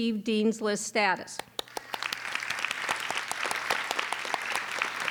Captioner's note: applauding